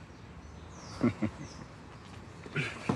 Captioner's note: he chuckles